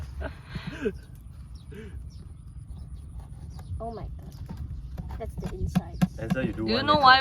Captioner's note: laughter in background